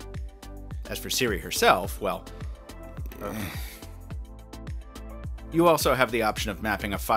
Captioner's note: sighs